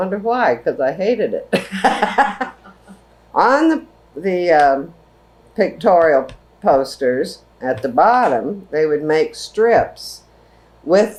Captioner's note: laughter